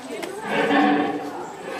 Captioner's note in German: Roar sound